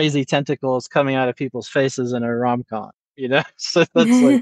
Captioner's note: laughs